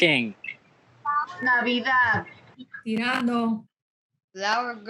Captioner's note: women speaking Spanish